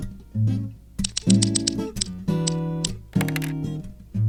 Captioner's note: quick snipping sound